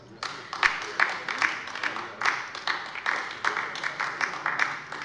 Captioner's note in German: Beifall bei der LINKEN